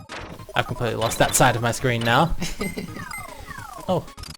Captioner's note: laughs